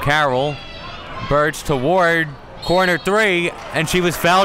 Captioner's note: whistle blows